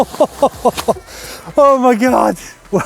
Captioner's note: laughing